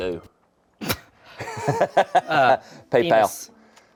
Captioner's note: everyone laughs